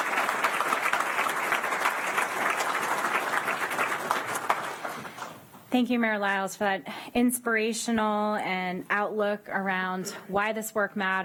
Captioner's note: applause